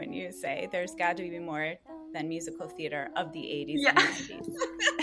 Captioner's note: laughter